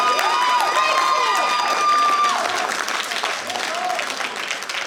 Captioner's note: applause